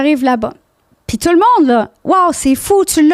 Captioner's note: in french